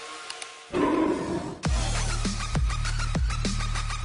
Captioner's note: growling roar